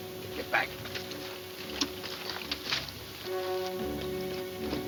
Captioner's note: boots scuffing